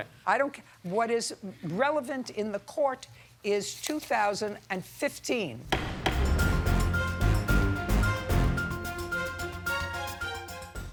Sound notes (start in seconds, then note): 5.6 serious music; 5.7 gavel slams